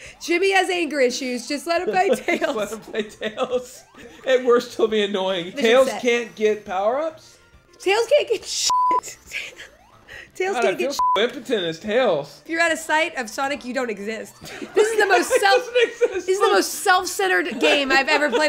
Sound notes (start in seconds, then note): 14.4 laughing